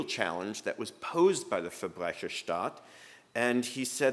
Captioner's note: speaking german